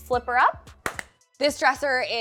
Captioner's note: palms thwacking